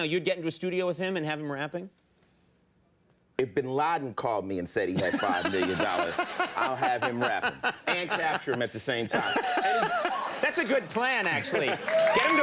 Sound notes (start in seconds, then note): 9.4 everybody laughing